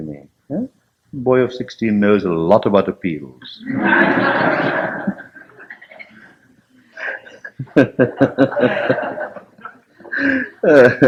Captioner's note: laughter